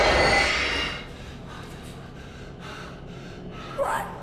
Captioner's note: sudden screeching music; Clint panting